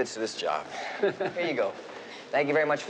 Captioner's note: chuckling